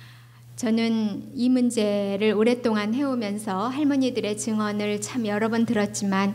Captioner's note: speaking foreign language